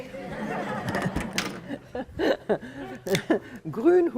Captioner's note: laughter